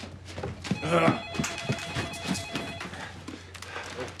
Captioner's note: panting